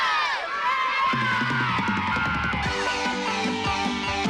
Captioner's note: Всеобщие аплодисменты